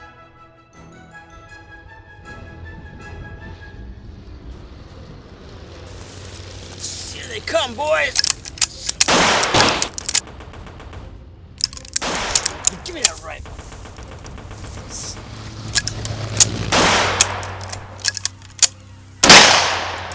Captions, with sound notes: Here they come boys. (guns firing) Give me that rifle. (whirring) (guns firing)